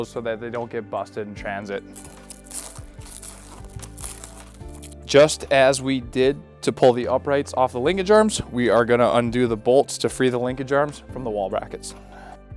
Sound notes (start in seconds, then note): 1.9 tape crinkling